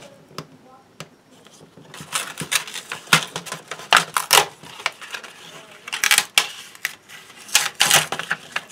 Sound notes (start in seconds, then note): 2.1 tearing